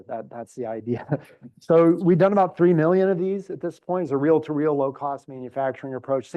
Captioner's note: laugh